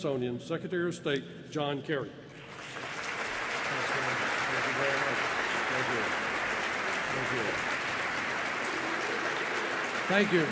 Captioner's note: applause